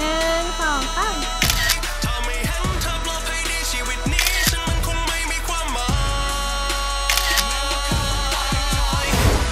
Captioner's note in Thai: เสียงชัตเตอร์กล้อง